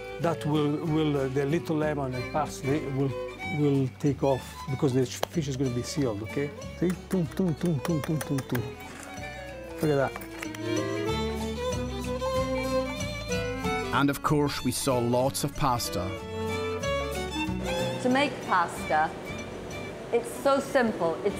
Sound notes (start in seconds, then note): 8.5 salt crunching; 11.1 carefree violin music; 16.7 carefree violin music